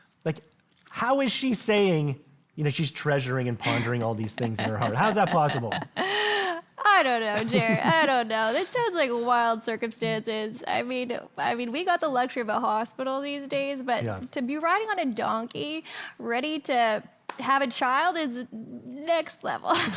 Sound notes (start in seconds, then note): 5.7 host laughing softly; 19.7 both laughing softly